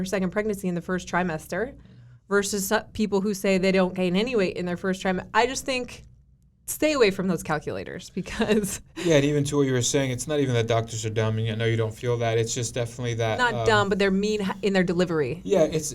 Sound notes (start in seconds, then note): 8.2 giggles